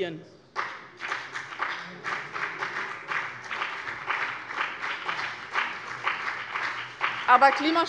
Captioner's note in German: Beifall bei dem BÜNDNIS 90/DIE GRÜNEN und der CDU